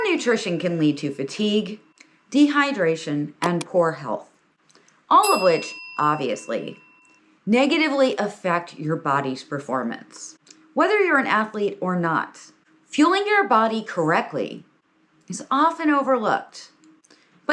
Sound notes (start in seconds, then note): 3.4 click notification sounds; 5.2 notification bell dings